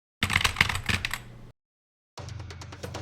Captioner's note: typing